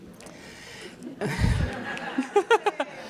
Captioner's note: audience laughing